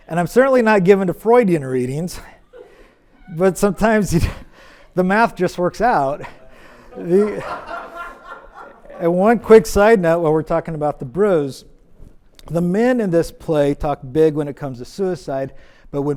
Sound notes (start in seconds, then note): 7.7 audience laughs